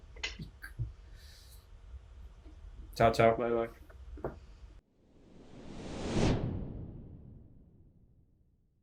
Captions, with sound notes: Ciao, ciao. - Bye-bye. (logo whooshing)